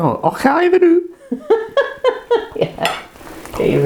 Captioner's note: laughs